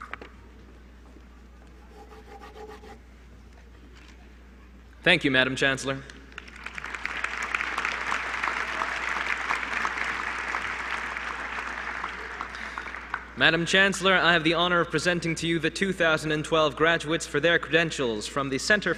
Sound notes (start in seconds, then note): 6.3 applause